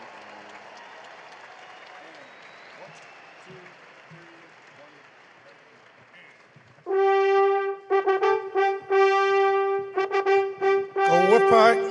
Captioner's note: applause